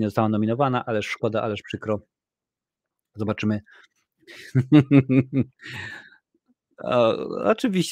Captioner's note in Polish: śmiech